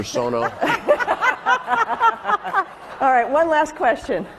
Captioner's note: laughing